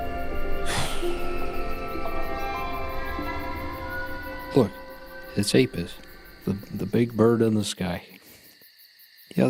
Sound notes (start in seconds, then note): 0.6 exhales